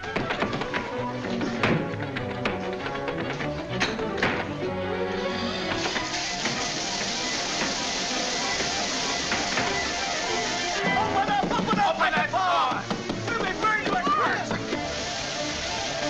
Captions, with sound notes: (water running) - Open up! Open up! - Open that door! - We'll be burned to a crisp!